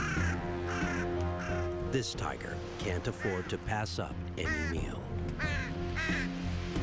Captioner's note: birds cawing